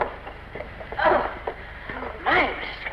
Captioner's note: Granny groans